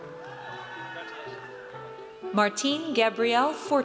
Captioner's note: audience cheers